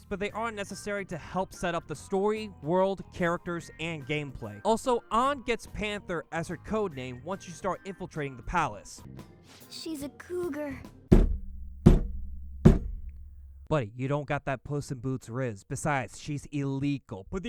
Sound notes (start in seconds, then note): 11.1 slams desk three times